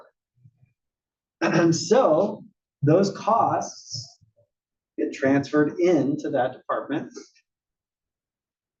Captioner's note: cough